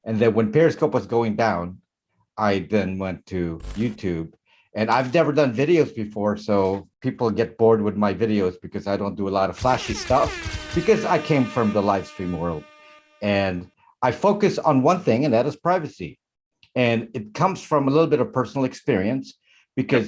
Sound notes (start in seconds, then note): 9.6 shutter snapping; 9.6 air horns honking